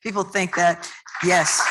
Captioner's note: applause